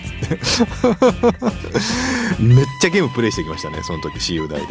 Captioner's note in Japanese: 笑い